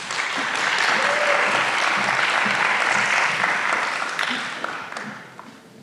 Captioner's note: applause